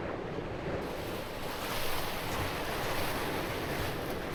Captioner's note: waves crashing